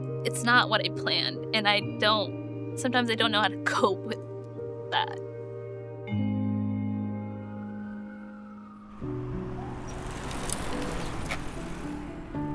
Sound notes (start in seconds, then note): 5.2 somber piano music fades; 7.0 sirens; 9.9 pensive piano music